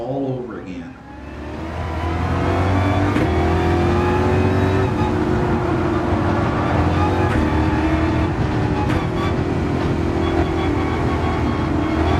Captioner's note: engines revving, cars noises, rain